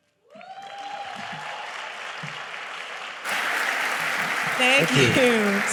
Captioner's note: audience cheering; audience applauding